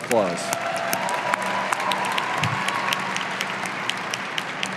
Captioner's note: audience applauding